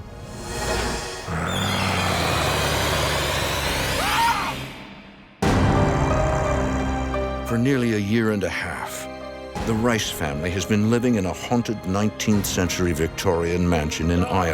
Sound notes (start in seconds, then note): 0.4 deep growling; 0.7 Norman screams; 4.3 eerie music